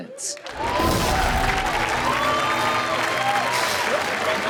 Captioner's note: audience cheers